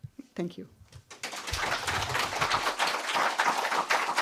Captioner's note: applause